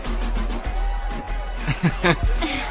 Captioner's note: chuckles